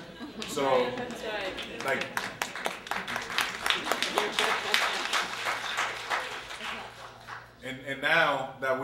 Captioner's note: applause